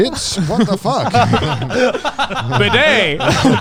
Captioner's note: all laughing